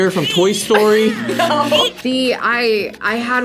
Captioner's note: laughs; buzzer